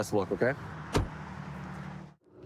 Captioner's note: door bangs